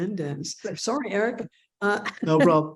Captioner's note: chuckling